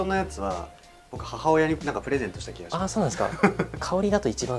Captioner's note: laughs